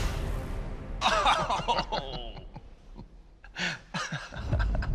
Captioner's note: laughs